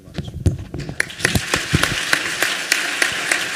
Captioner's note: applause